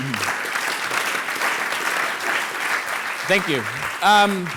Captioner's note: audience laughs and applauds